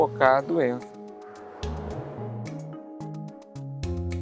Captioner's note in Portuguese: som de vento